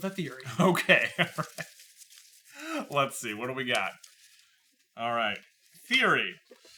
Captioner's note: chuckles